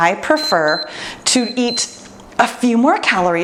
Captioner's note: timer beeps